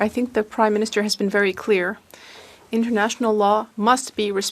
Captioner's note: speaking French